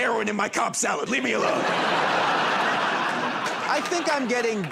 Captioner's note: laughter and applause